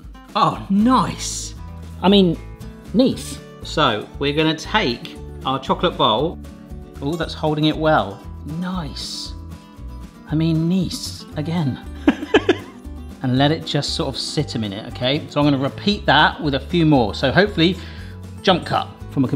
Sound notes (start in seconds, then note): 12.0 laughs